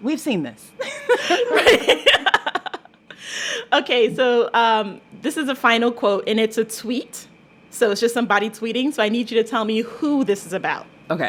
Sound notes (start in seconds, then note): 0.8 laughter